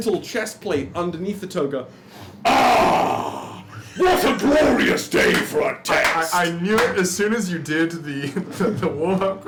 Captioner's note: laughing